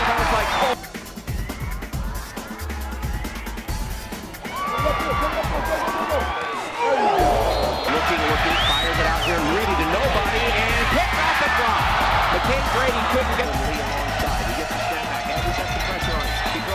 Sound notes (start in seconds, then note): 6.5 crowd groans; 10.9 cheering